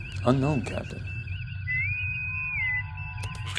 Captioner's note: bosun whistle